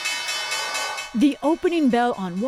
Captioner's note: bell ringing